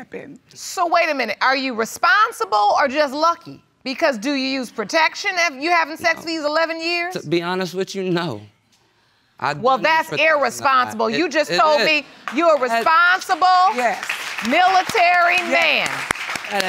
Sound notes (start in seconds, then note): 12.2 audience applauding